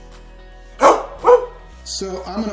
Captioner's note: happy barking